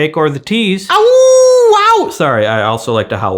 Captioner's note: howling